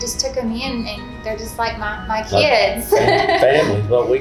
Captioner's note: laughing